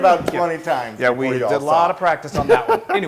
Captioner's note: laugh